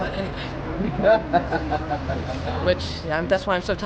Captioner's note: laughter